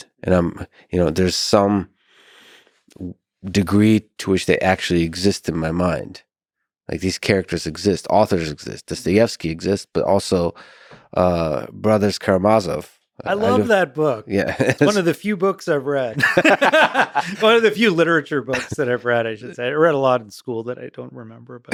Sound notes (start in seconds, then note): 16.1 both laughing